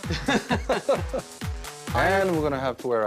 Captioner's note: laughing